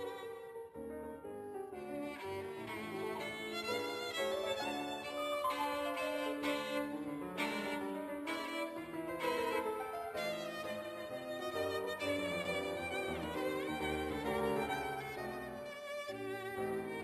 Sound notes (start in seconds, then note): none